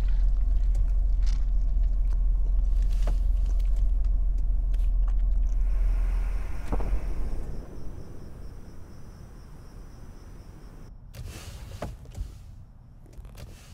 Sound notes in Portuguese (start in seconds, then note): 5.5 zumbido de insetos